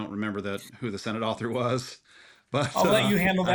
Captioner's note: laughs